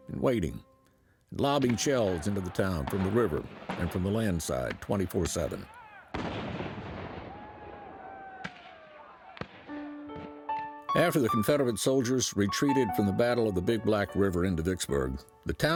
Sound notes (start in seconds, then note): 6.1 cannon and gun fire